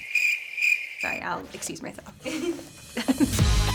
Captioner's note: crickets chirping; laughter; upbeat music